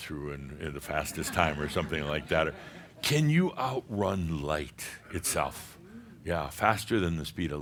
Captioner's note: a few chuckles